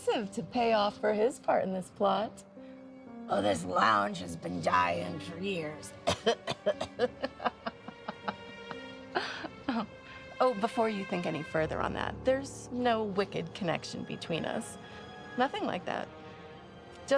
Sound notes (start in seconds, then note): 6.0 person imitates coughing; 6.2 person laughs